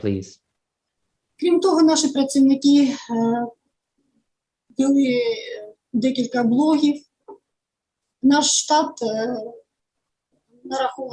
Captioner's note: foreign Language